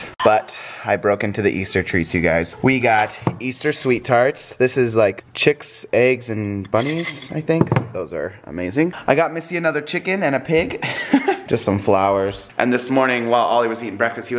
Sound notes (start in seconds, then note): 10.8 laughs